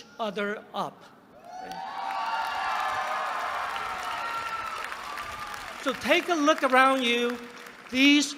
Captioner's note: applause